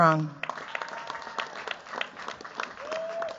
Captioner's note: cheers, applause